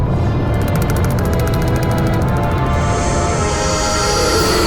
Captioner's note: teeth chattering